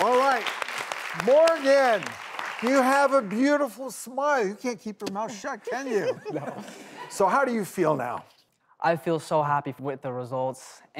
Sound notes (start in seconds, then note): 5.6 all laugh